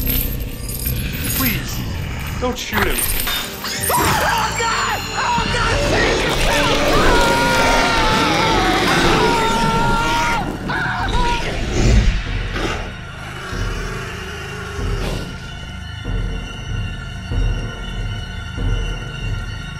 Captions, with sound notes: (chains clanging) Please, don't shoot him. (screeching) Oh, God! Oh, God! (screaming)